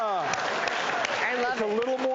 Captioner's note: audience clapping